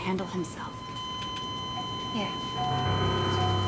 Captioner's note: machinery beeping; tense music